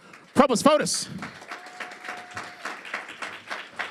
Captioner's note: applause